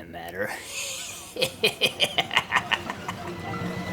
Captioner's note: laughs